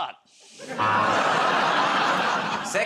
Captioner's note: laughter, buzzer